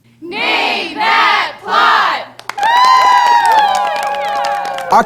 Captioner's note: cheers